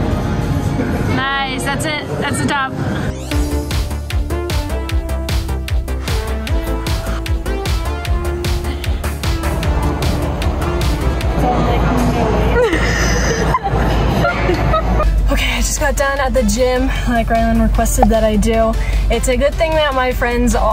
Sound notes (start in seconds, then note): 3.3 upbeat music; 12.5 laugh